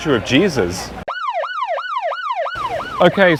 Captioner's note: police Sirens